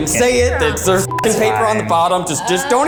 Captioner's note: beep